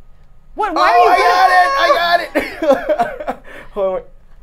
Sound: laughs

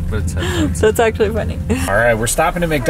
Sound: laughs

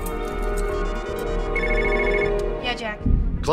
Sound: ringing phone

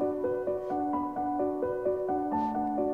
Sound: footsteps

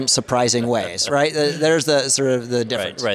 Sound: laughter

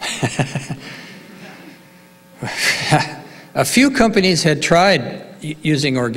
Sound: laughs

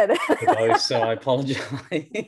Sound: both laughing

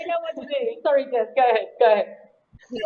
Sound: laughing

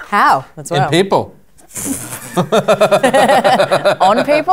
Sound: laughter

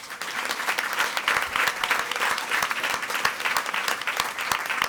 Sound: audience applauding

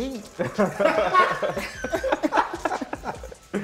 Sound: laughter

